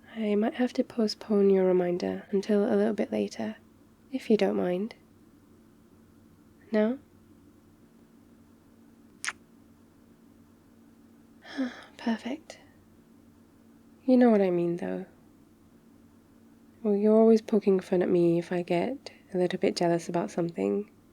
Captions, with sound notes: I might have to postpone your reminder until a little bit later if you don't mind? no? *kiss* *sighs* perfect you know what I mean though well, you're always poking fun at me if I get a little bit jealous about something